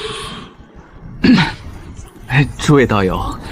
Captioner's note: cough